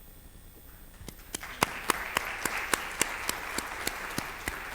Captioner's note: applause